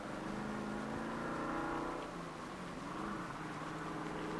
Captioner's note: engine rumbling